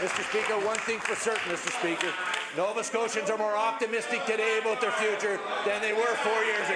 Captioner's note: some applause